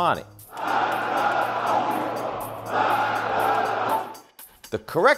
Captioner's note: chanting in foreign language